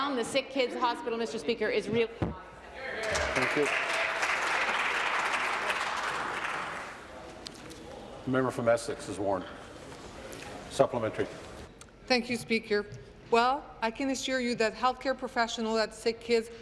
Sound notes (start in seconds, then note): 7.8 applause